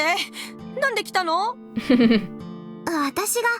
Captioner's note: chuckles